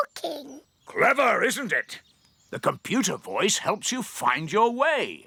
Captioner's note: none